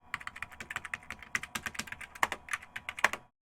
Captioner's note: keyboard typing